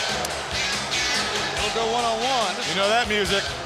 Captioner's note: crowd cheering